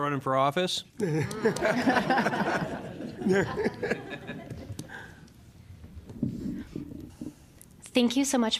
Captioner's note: laughter